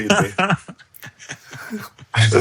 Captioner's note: laughing